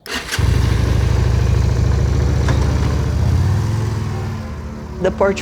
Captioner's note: sound of Motorcycle, ♫ ♫